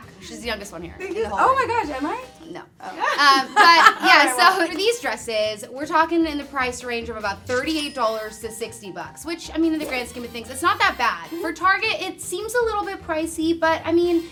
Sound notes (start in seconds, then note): 3.0 laughs